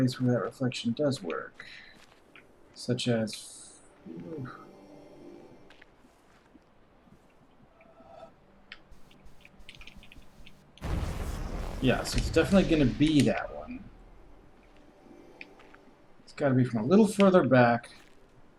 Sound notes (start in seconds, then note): none